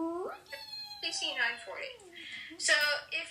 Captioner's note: starts to reee again